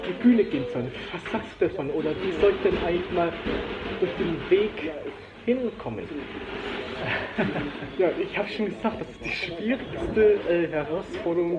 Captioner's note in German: Er lacht